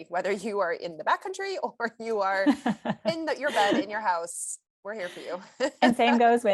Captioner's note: chuckles